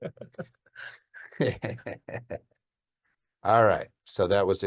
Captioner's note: laughing